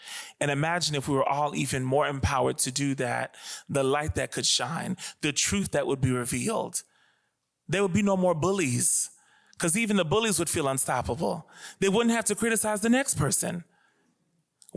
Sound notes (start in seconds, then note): none